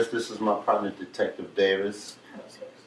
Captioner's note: none